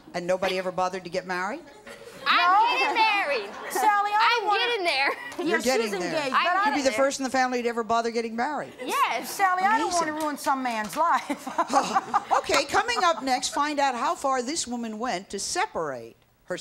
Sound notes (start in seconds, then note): 11.0 laughs